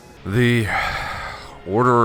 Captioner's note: sigh